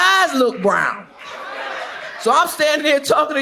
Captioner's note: audience laughs